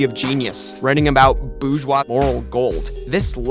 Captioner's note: none